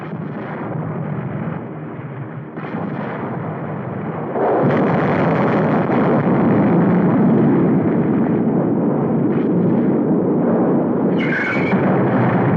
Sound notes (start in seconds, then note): 4.4 explosion booming